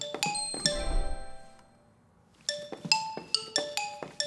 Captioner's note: chime